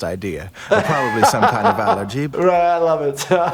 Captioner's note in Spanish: se ríe; risas